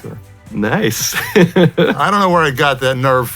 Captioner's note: chuckles